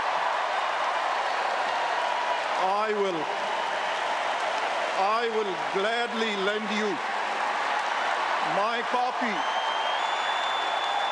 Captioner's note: cheers and applause